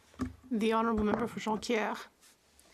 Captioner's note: speaking French